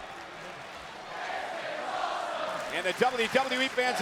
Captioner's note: audience chanting